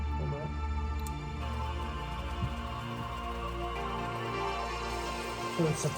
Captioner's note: oil pump spinning